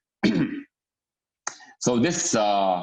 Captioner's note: clears throat